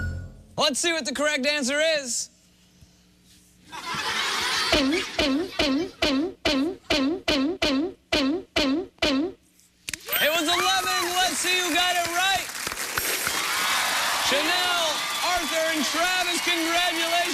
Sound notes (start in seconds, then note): 3.6 laughter